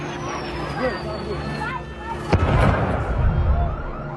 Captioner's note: people yelling